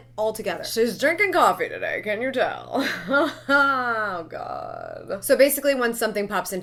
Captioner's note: laughs